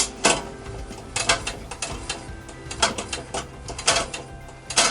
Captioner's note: metal clanking